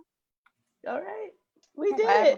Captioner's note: laughs